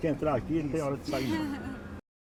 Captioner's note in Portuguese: Risos